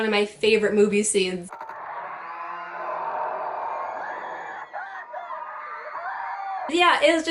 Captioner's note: Godzilla roaring with children screaming in terror